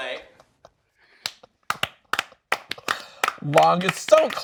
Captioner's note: clapping